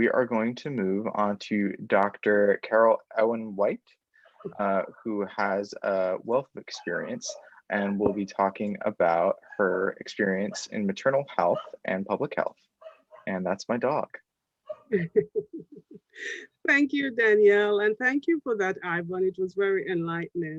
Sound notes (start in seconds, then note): 11.4 dog Barking